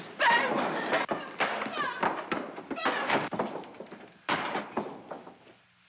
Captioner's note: objects pinging against door